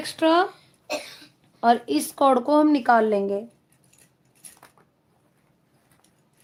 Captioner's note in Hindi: गला साफ़ करने की आवाज़